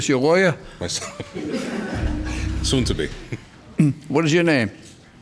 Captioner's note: laughs